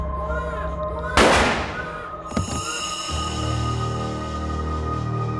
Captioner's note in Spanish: Disparo